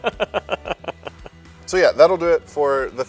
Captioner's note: laughter